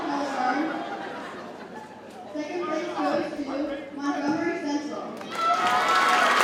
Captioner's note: audience cheers and applauds